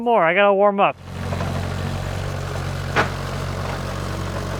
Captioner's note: engine revving